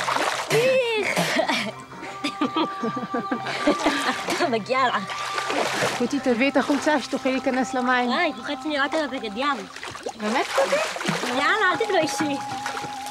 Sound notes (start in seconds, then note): 2.0 laughing; 2.0 laughs